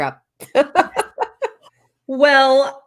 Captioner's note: laughing